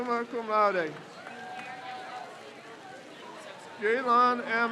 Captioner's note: crowd cheers